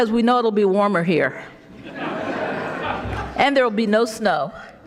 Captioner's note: audience laughing